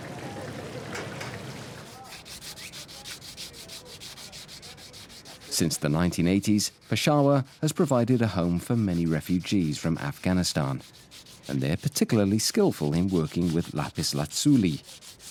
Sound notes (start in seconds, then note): 1.8 scraping sound